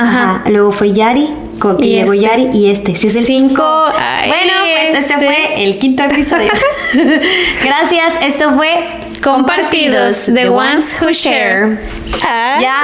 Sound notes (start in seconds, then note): 7.1 laughs